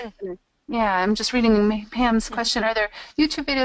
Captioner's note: voiceover